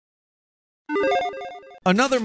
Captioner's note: electronic chime